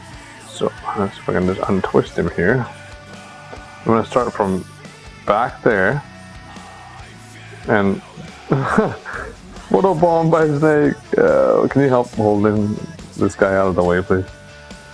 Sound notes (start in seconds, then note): 7.4 laugh